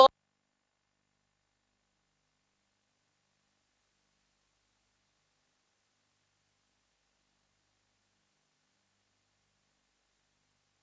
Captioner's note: audio lost